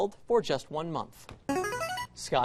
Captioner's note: buzzer